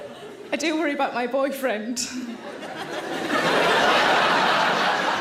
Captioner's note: audience laughing